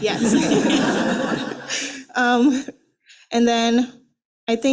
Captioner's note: attendees laughing